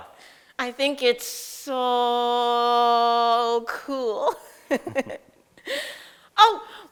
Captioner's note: laughs